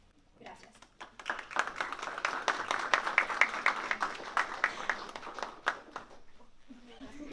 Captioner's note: applause